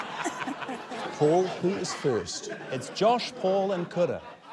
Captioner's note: laughter